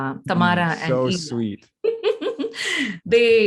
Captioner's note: laughing